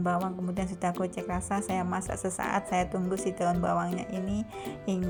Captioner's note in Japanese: 柔らかく煮えたぎる